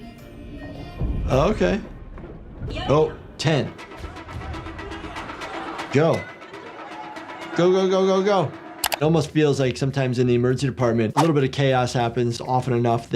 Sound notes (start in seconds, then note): 0.0 upbeat music; 0.2 announcer speaking in Korean; 3.1 announcer speaks in Korean; 3.7 players speaking in Korean